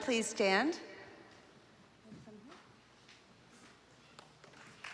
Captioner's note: applause